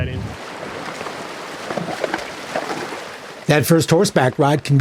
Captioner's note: water splashing